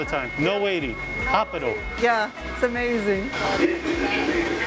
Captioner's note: in Portugese